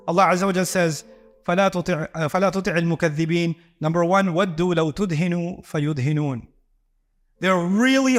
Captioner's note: Arabic